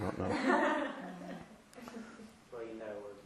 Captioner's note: laughter